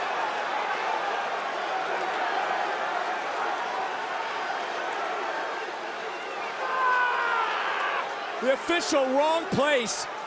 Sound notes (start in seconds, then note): 1.7 crowd cheers